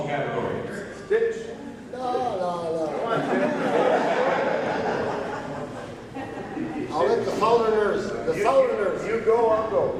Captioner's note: laughter